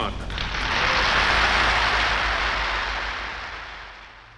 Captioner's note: audience applauds